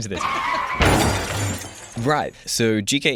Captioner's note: car crash noise